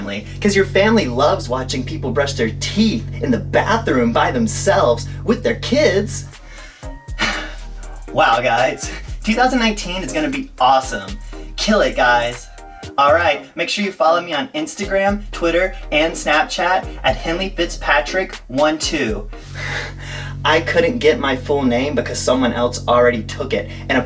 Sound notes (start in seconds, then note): 6.4 deep breath